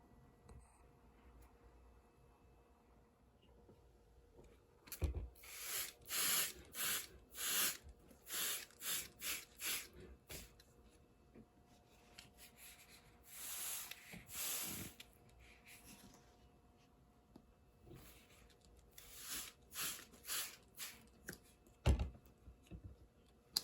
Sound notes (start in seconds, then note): 12.1 water spraying